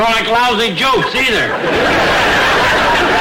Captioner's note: audience laughter